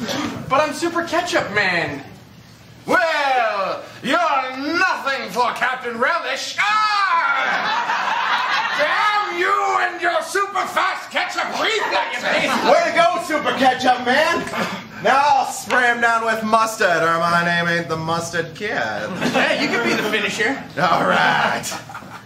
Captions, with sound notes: But I'm Super Ketchup Man. Well, you're nothing for Captain Relish! Aarrgghh! (laughter) Damn you and your super-fast ketchup reflexes! - Way to go, Super Ketchup Man! Now I'll spray him down with mustard or my name ain't The Mustard Kid. - Yeah, you can be the finisher. - All right!